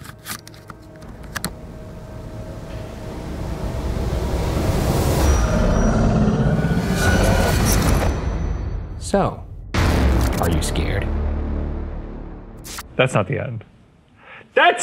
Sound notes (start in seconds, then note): 0.1 sinister music; 5.4 entity growling; 11.3 ominous music